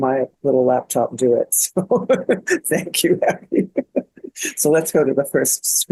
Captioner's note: laughing